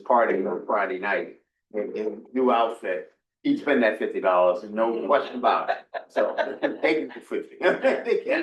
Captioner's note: laughter